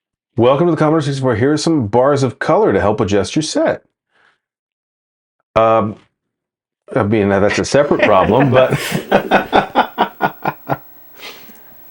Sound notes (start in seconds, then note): 7.8 laughing